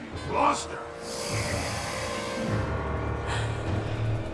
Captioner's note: ghoul growls; dark ominous music